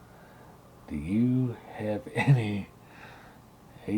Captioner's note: laughing